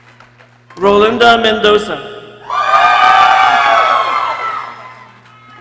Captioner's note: people cheering; people cheering